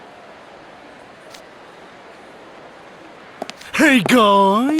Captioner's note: crowd murmuring…